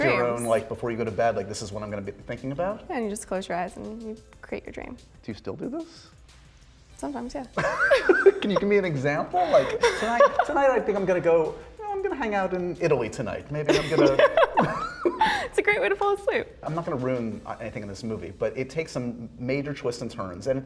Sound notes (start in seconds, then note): 7.6 laughter